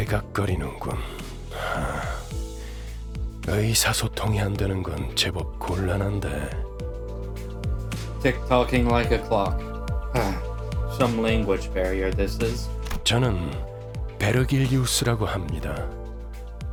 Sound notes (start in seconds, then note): 7.0 sigh